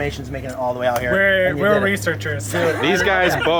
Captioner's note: laughing